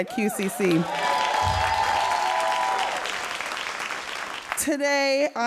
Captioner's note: all applauding and cheering